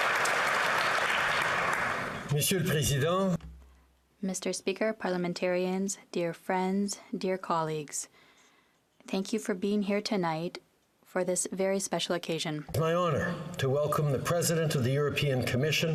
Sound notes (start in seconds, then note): 2.1 applause; 6.0 speakingst FRENCH